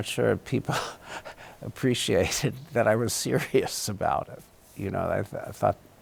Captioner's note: chuckles